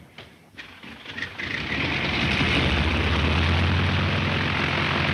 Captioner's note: airplane motor revving